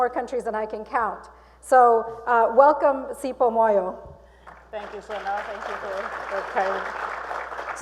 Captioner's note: applause